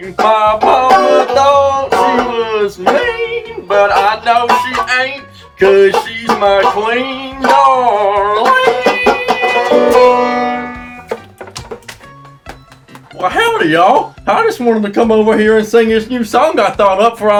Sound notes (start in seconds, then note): 11.8 tepid But Sincere Applause